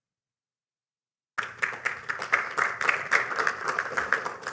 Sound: applause

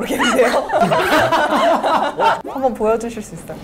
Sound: hahahaha

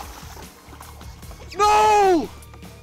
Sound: water splashing

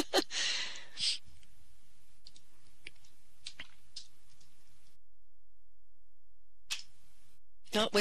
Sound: typing

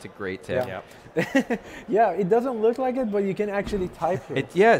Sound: laughs

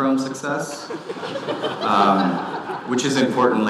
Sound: audience laughing

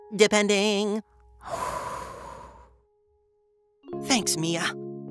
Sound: exhales

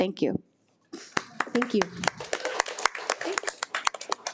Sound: audience applauding

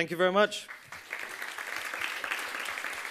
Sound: audience applauding

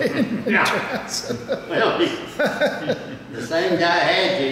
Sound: laughing

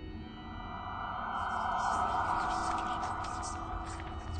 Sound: Sign of marked by death speaks in demonic tounges

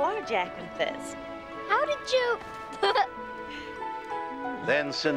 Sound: giggles

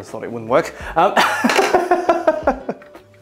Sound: laughs

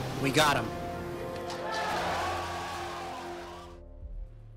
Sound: crowd cheering

